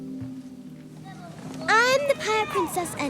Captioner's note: group chattering